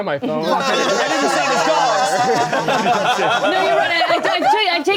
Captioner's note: everyone laughing